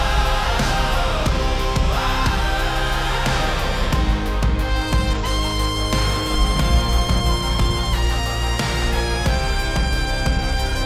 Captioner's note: heavy guitar riff; radio static fades out